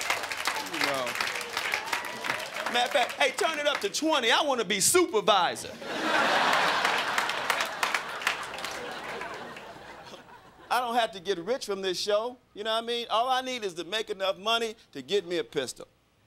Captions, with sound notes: Matter of fact, hey, turn it up to 20, I want to be supervisor. [crowd laughing] I don't have to get rich from this show. You know what I mean?